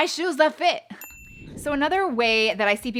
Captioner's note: dings